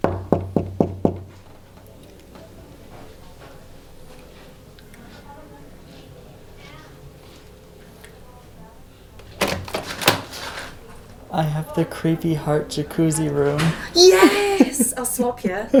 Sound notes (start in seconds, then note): 0.0 door knocking; 9.2 door opens